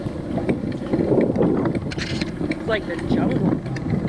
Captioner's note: wind whipping